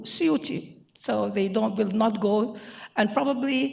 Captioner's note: speaking in foreign language